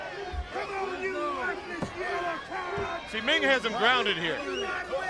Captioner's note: crowd chatter